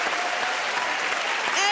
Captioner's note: cheering and applause